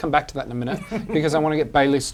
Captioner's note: laughs